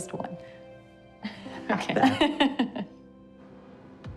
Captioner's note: laughs; rhythmic music